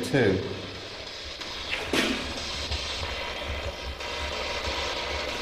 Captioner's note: static buzzing